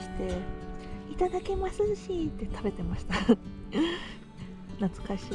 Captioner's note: high-pitched voice